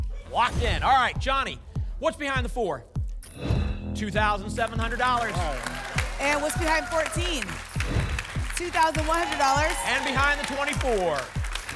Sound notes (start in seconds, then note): 3.3 whoosh; 7.8 whoosh